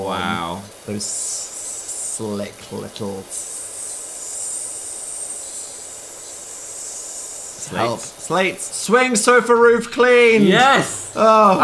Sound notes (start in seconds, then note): 3.4 hissing